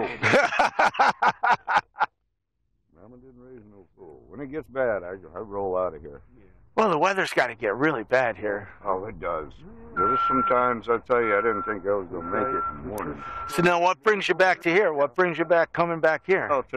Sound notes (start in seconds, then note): 0.0 all laugh; 9.7 truck back-up beeper